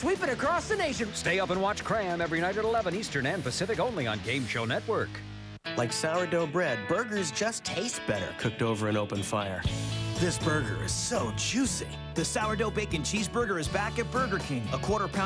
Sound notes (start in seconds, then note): none